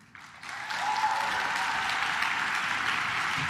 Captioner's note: claps